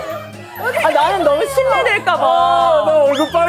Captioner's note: hahaha